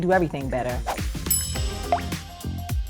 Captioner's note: bell ping; upbeat music